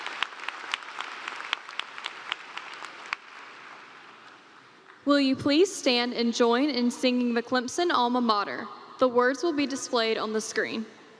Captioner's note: cheers and Applause